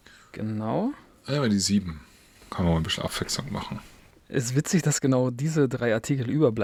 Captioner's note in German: schnauben